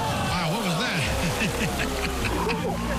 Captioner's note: laughs